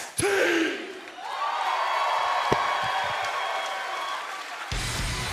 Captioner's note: cheers and applause